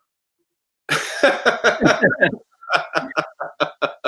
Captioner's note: laughter